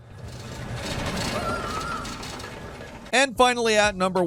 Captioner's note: character screams